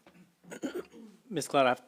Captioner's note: clears throat